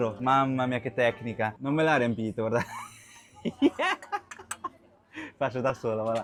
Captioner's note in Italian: risate